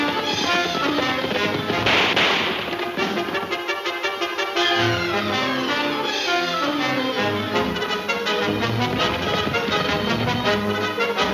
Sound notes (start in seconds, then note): 0.2 guns firing; 2.1 suspenseful music